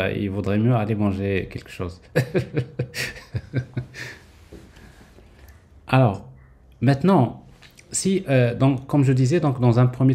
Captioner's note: laughs